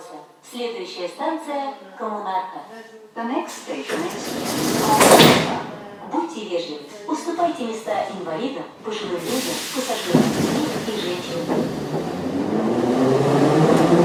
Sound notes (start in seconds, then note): 3.5 closing doors; 12.8 train leaves to the next station